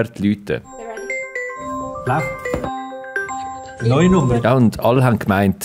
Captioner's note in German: Telefon klingelt